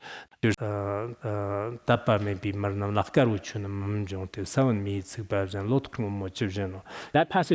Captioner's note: citing scripture in Tibetan